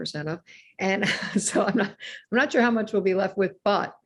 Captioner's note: laughs